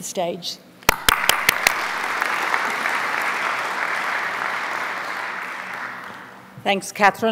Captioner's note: applause